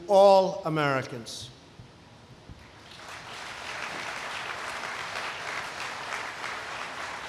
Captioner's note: applause